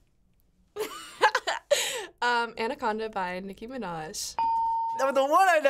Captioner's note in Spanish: ding